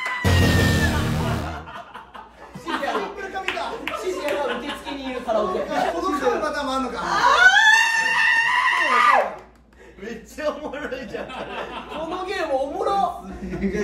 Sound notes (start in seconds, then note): 7.0 agonized scream